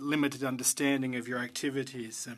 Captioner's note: speaking French